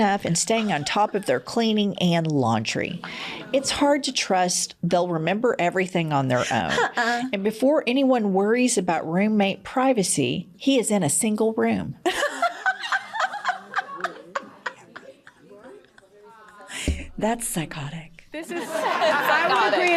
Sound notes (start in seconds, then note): 12.0 laughter